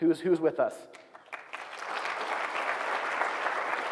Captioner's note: applause